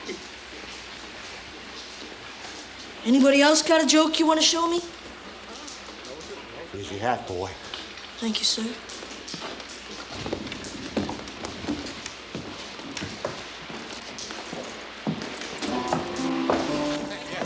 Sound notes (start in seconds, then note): 10.1 thunder claps; 15.4 piano music continues